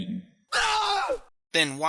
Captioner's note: screams